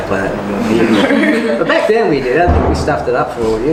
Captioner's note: all: "no" laugh